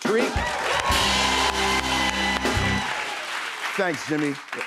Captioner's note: cheers and applause